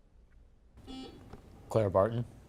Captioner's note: buzzer beeping